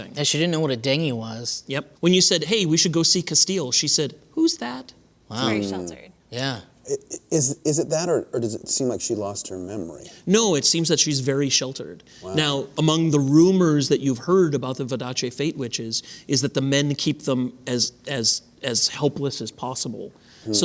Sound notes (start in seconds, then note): 6.8 hums of acknowledgement